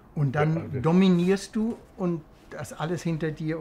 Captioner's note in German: none